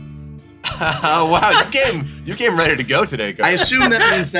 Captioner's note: laughs